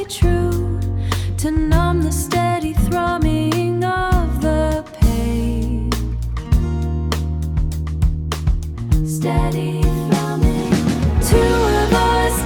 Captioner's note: steady thrumming